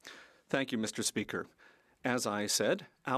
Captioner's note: speaking French